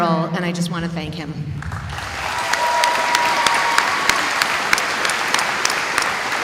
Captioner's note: applause